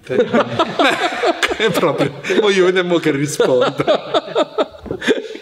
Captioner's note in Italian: risate